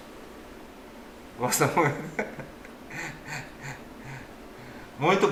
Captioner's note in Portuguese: risos